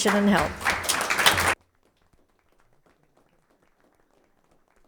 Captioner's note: audience applauding